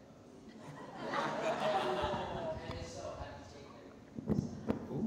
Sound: audience laughing

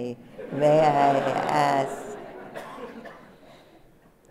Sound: laughter

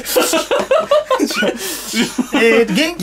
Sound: laughter

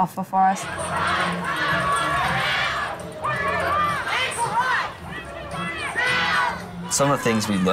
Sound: chanting

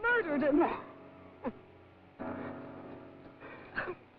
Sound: Jan cries; Doreen sobs

